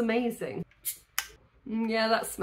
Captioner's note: bottle opening